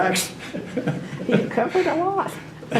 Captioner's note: laughs